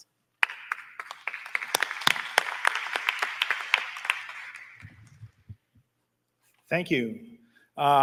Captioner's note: applause